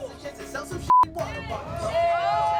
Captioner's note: beep; everyone cheers